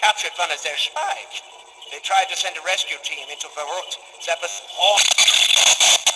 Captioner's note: static